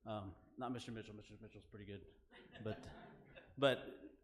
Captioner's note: laughing